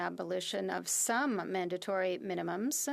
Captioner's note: speaking French